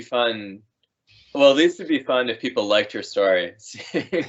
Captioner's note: everyone laughing